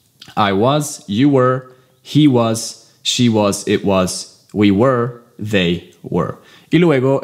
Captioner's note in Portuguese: Inglês